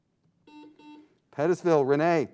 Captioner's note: buzzing sound